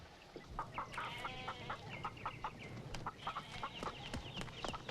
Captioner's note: chickens clucking; goat bleating; feet pattering